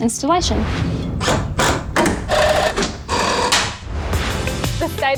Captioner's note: construction noises